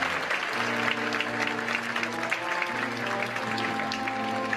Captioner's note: applause